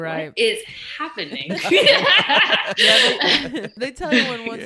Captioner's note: laughing